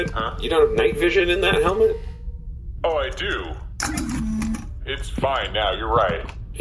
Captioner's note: speaking with a much tinnier voice than normal; night vision clicks on